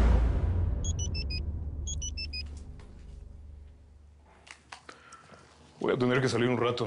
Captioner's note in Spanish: Suena un bíper